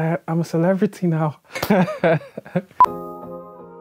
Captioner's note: rires